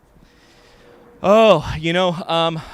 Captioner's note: sighs deeply